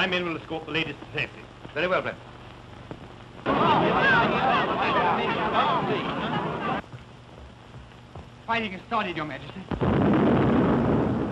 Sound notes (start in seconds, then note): 3.4 excited chatter; 9.7 boom